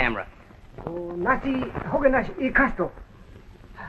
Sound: speaking japanese

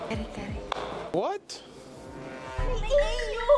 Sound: Among Us Imposter sound

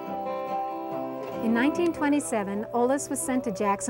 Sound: voiceover

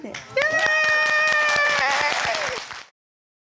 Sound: all applauding and cheering

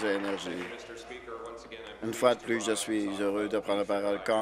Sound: applause

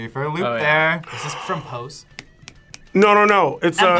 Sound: gasps

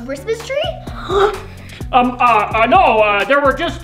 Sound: gasps

